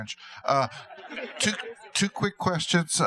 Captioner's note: laughter